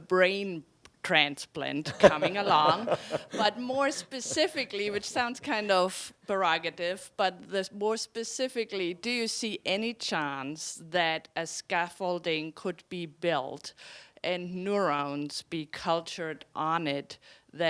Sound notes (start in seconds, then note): 1.8 laughing